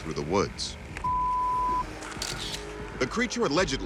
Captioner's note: camera shutter clicks